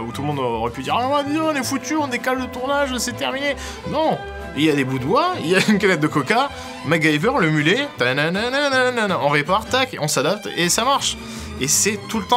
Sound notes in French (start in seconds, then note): 5.5 rires